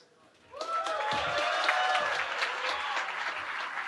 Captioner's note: cheering